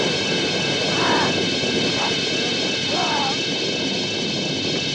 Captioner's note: ghoul growling